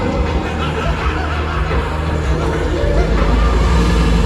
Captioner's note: maniacal laughter